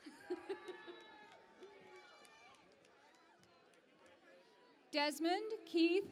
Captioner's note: cheering and Applause